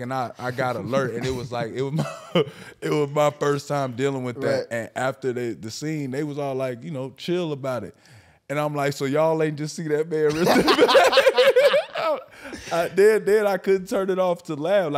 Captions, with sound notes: And I got alert and it was like, it was, it was my first time dealing with that. And after the scene, they was all like, chill about it. And I'm like, so y'all ain't just see that man rip that bag? (all laughing) Then I couldn't turn it off to laugh.